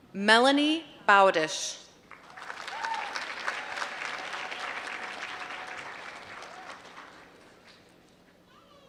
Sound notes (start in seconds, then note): 2.0 applause